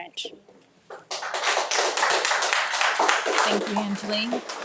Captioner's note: audience applauding